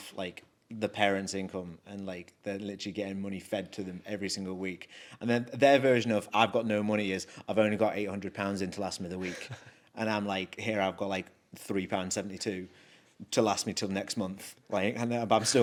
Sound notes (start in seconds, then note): 9.2 chuckles